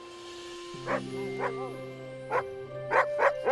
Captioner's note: Buck barking